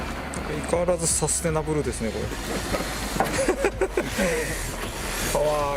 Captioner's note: laughs